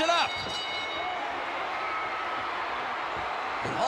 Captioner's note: bell dings